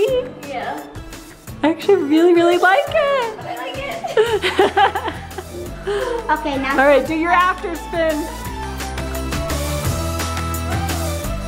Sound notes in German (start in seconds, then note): 3.5 lacht; 8.6 beschwingte Musik